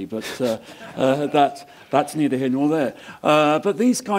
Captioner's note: laugh